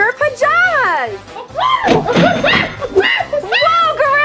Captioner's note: cashier till ring; exciting gorilla sounds